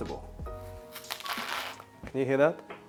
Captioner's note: crunch sound